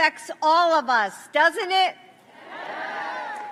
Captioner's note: applause